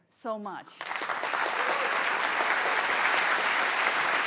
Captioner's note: applause